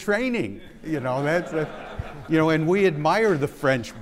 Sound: audience laughing

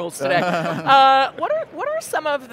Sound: giggling

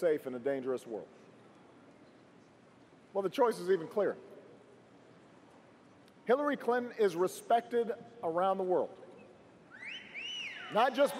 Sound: cheers & applause

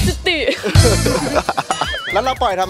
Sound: laughs

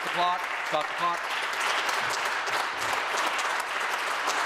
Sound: applause

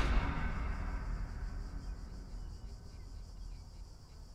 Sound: crickets chirping

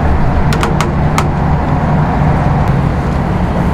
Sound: boat creaks

